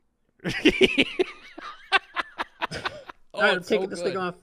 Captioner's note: laughing